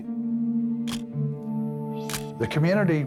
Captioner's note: camera shutter click